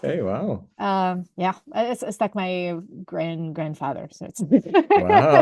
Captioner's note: laughs